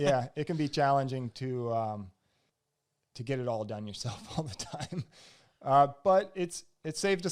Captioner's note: laughs